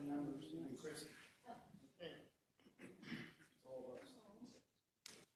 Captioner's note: council chattering